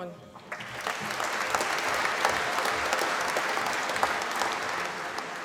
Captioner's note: applause